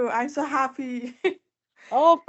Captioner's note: laughs